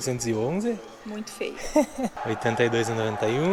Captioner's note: laughs